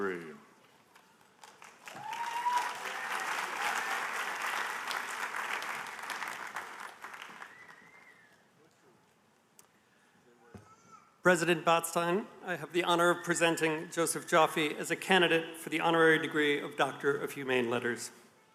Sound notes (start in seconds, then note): 6.6 applause